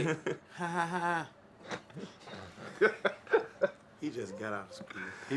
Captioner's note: laughs